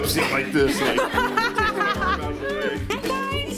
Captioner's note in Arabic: يضحك